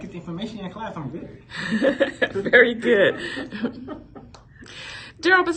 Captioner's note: laughing